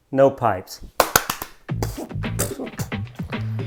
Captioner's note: claps